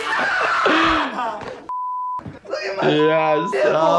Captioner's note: beep